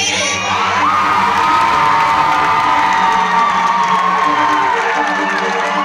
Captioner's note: crowd roars and claps loudly